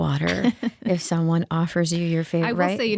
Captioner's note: laughing